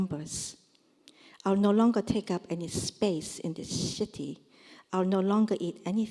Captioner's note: korean